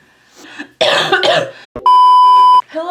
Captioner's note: coughs